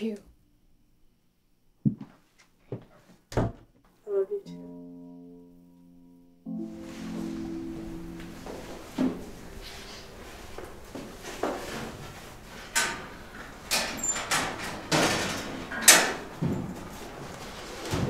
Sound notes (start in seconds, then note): 1.8 footsteps walking away; 3.8 door closes; 6.6 clothes rustling; 12.1 locker door creaks